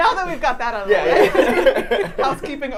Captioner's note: laughs